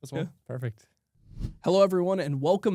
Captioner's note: swoosh